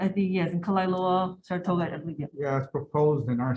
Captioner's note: speaking foreign language